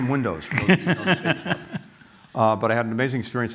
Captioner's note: laughter